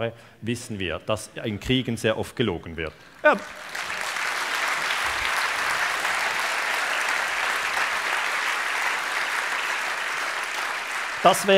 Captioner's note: applause